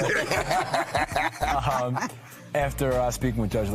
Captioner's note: laughs